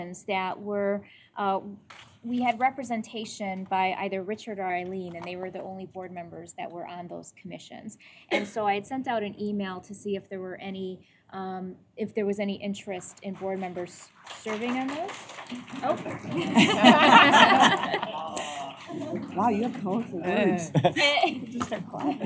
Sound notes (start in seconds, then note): 15.1 applause; 16.0 laughter